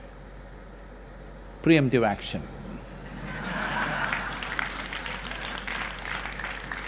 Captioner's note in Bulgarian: Смях/Аплодисменти